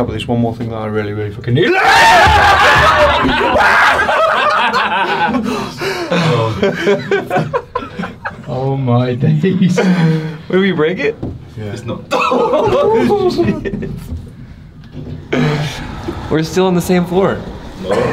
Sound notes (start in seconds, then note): 2.8 yelling; 7.7 all laughing; 12.7 lift rumbles to a start